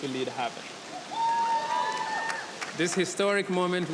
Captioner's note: audience cheering